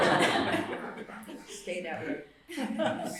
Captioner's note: laughter